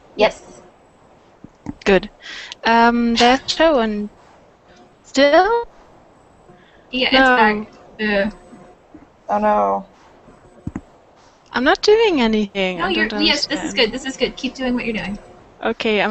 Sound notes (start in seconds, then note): 3.6 mic starts making noises!